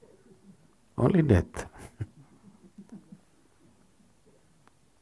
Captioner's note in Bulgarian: смее се